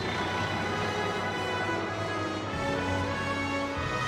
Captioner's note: distant tractor rumbling